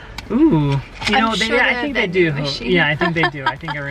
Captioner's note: laughs